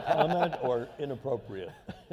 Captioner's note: laughter